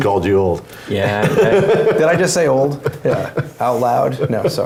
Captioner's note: laugh